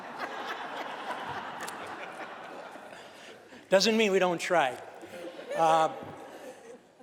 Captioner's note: laughter